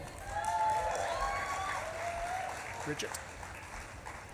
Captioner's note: audience claps and cheers